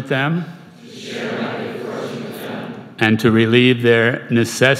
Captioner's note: crowd